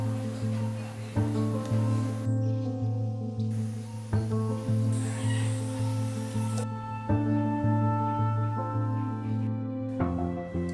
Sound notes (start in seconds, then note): 0.1 people chattering; 5.5 tool whizzing